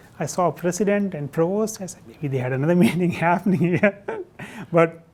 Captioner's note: laughs